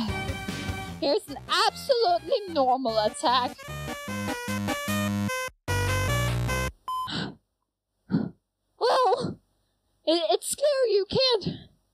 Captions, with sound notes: Here's an absolutely normal attack... *huff* Well it-it's clear you can't-